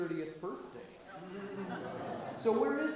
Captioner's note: audience murmurs